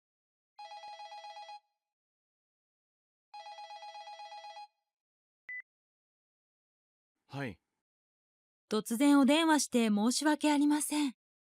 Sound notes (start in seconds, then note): 0.5 the sound of a cell phone ringing